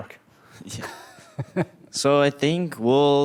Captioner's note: laughing